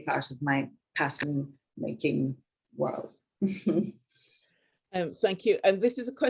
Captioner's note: woman chuckling